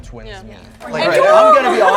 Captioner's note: crowd speaks